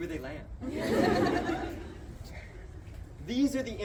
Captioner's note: crowd laughs